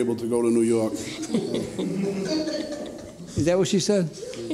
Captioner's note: courtroom laughter